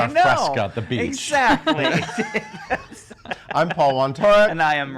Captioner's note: laughing